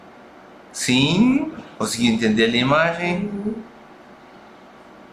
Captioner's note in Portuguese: murmúrio de afirmação